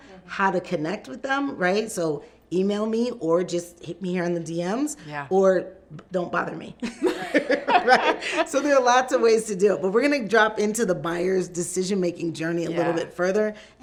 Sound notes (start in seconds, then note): 7.0 laughs